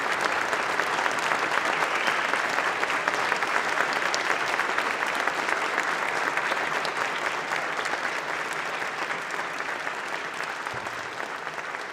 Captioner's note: applause